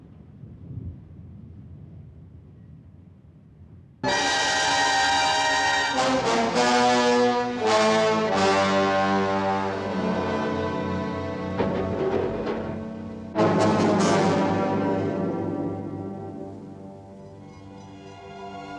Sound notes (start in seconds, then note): 11.5 clattering